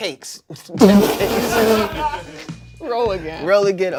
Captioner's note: everyone laughs